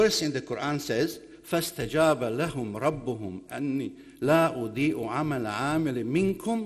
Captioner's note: speaking in foreign language